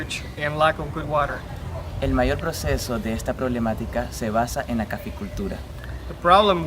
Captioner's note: speaking spanish